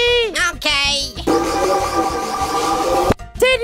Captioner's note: loud shimmering sound